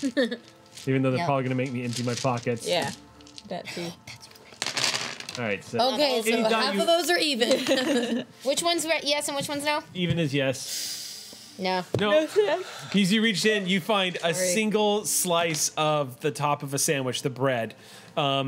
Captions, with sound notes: Even though they're probably gonna make me empty my pockets. Yeah, that too. Oh that's right. (clatter) Okay, so half of those are even. Which one's yes and which one's no? Even is yes. Nope. As you reach in, you find a single slice of the top of a sandwich, the bread.